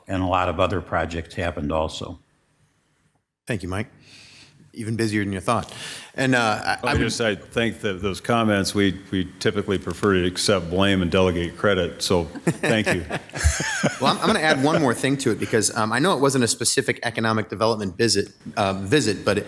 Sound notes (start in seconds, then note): 12.2 council members laughing; 12.2 laughs